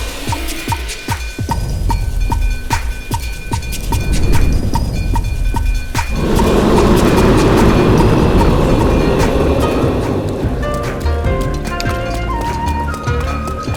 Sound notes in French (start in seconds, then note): 6.0 cri de Miz'Kyosia; 10.6 musique de combat et bruits du jeu